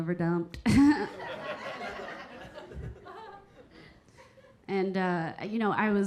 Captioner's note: Keira chuckling; audience laughing